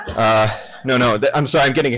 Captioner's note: laughter